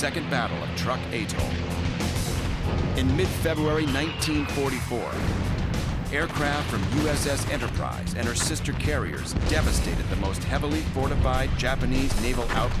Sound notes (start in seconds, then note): 2.9 bombs whistling; 4.4 explosions